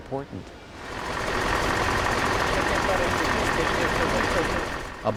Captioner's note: drill running